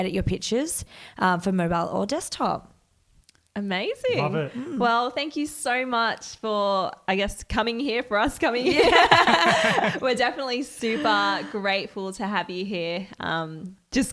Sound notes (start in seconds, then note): 8.6 laughs